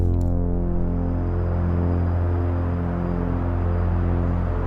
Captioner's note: dark synth music; switch clicks; distant traffic hums